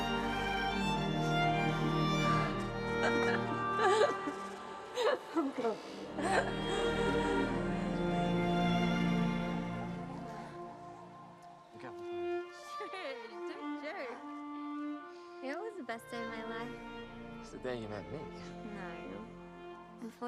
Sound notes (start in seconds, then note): 2.8 Betty laughing; 6.2 gentle music